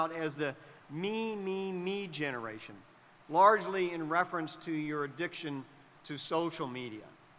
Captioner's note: none